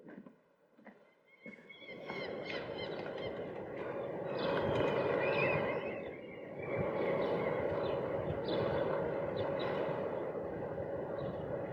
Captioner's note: sounds of the sea, and seabirds